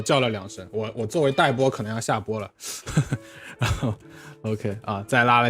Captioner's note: laughs